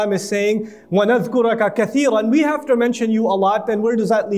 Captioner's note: Arabic